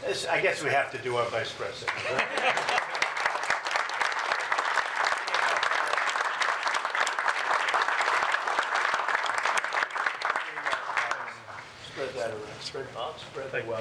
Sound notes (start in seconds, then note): 1.8 applause